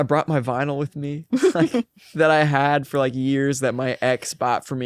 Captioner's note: laughs